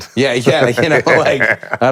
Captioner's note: laughs